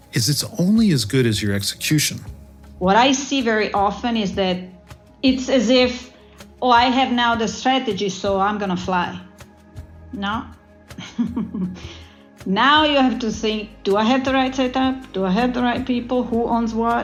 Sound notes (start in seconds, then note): 11.0 laugh